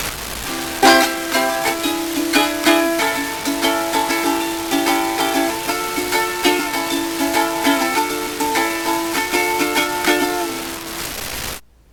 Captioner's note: awful racket